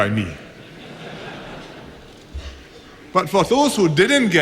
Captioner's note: laughter